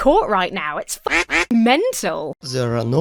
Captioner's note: duck quacks